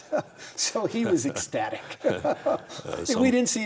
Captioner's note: both laugh